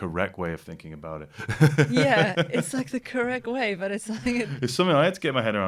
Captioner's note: laughter